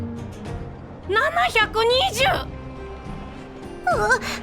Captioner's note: coughing